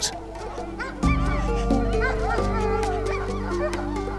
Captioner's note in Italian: Musica e mugolio dei cani